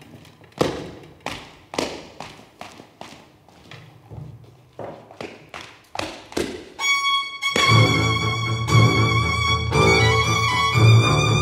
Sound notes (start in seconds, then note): 0.0 feet tapping; 7.5 dramatic music